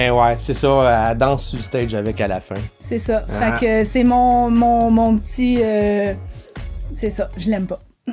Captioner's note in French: rires